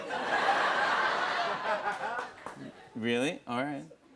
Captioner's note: laughter